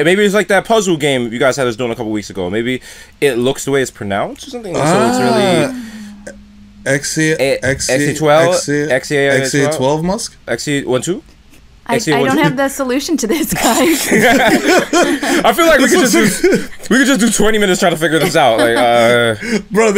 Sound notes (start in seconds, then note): 13.4 laughter